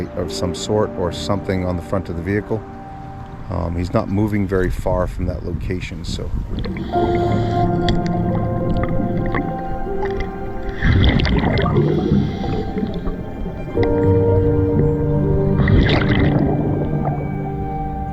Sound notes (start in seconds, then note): 7.0 somber music; 11.1 water bubbling